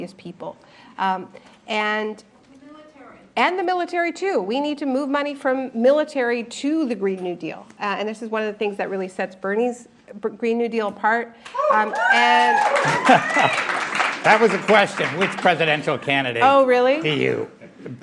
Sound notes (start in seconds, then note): 11.5 applause, cheering